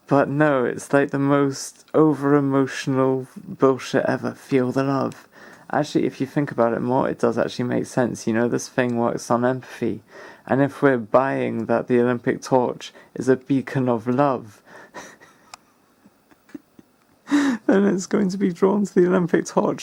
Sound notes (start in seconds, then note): 14.9 laughs bullyingly